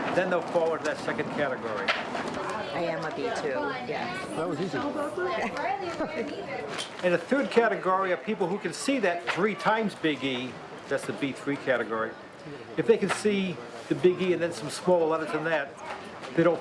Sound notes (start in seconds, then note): 5.2 chuckles